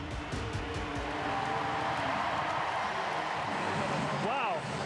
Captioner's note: cheering